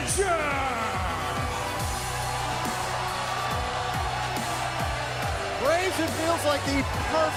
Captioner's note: crowd cheering